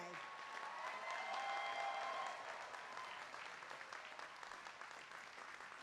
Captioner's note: applause